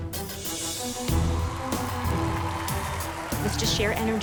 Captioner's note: cheering